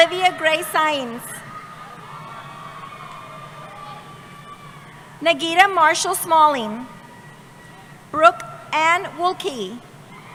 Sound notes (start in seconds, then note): 0.0 cheering